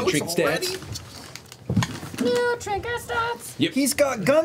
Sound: singsong

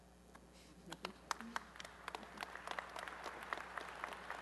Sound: applause

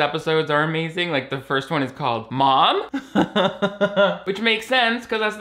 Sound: laughs

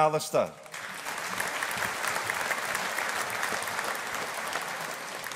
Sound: audience applauding

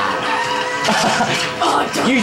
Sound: laughs

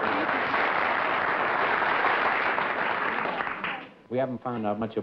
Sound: applause

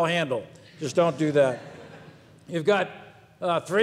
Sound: people laugh

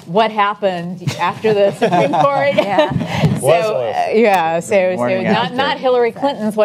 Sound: panelists laugh

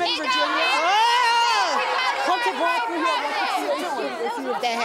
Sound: audience yelling

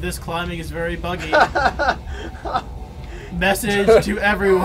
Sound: laughs

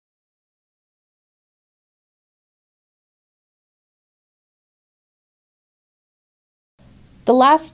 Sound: no speech present

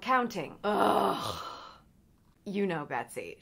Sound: groans

